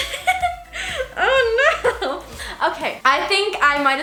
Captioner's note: giggles